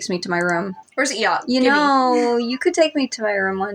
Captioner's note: chuckle